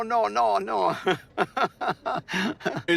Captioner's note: laughs